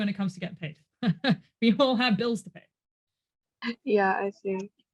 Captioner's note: laughs